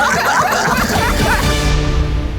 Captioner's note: everyone laughing; dramatic music